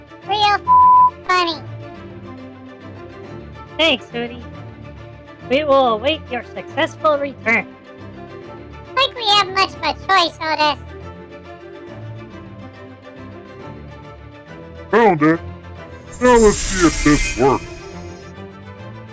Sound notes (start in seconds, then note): 0.6 voiceover, sarcastically; 4.2 voiceover, hopeful; 9.1 voiceover, sarcastically; 15.1 triumphantly